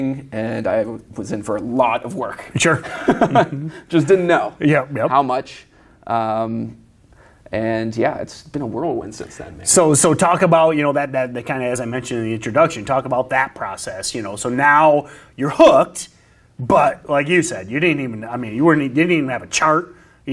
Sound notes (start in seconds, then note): 2.1 laughs